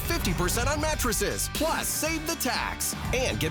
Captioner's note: SFX: heartbeat